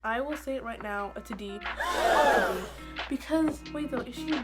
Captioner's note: gasp